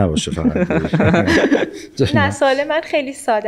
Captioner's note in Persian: خنده حضار